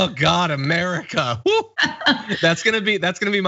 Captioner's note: laugh